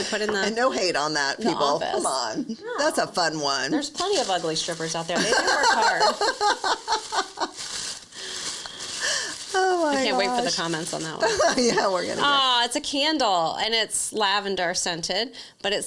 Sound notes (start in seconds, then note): 5.1 laughs